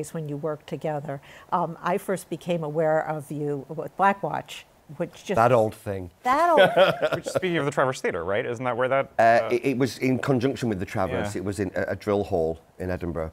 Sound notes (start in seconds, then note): 6.4 laughter